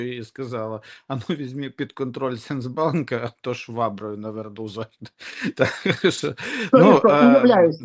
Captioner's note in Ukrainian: сміх